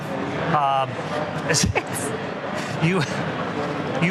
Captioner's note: laughter